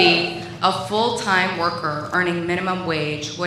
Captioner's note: applause